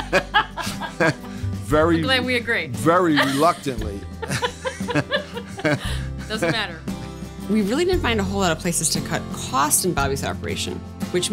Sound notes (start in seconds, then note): 0.0 laughs; 3.1 laughs; 3.1 laughing